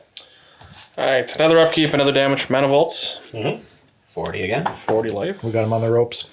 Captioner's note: none